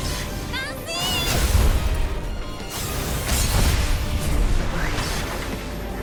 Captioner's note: characters fighting; upbeat music